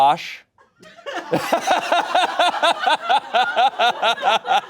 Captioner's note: laughing